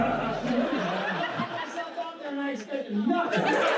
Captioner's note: audience laughs